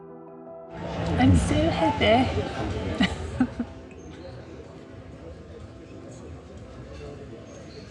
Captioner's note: giggles